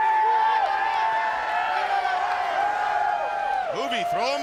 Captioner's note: audience cheers